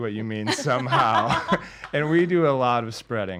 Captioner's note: laughs